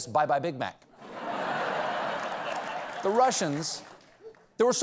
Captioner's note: laughter